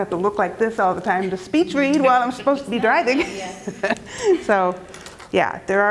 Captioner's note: laugh